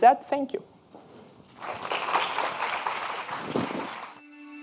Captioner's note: audience clapping